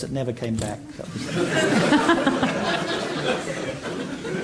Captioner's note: laughter